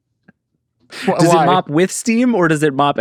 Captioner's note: laughing